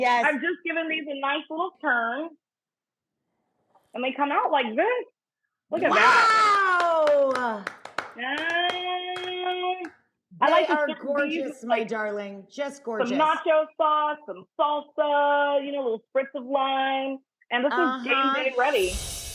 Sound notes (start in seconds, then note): 6.4 Rachael and John clapping